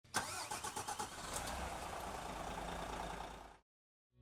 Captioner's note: engine sputters